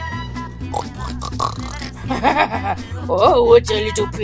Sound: pig oinking

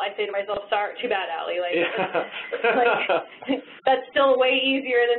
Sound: laughs

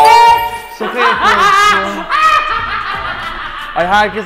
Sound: bursts into laughter

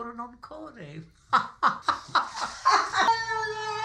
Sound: Rodney and Franky laugh

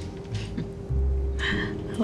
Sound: soft music; Rose chuckles

